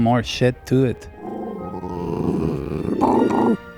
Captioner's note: grrrhhh